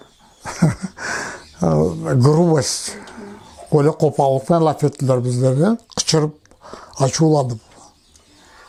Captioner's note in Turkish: rusça